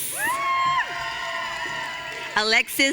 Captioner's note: audience cheering